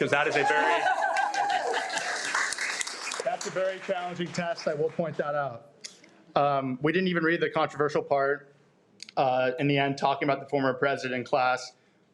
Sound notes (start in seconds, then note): 0.0 audience applauding; 0.1 audience laughs